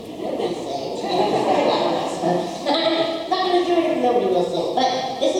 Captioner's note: audience laughs